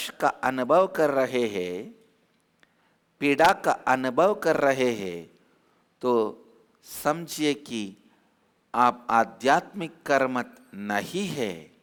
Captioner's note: Hindi